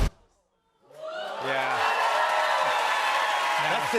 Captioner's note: cheers and applause